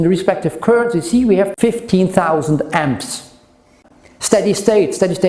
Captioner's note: amps